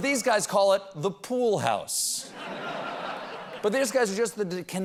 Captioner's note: laughter